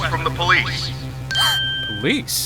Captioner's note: gasp!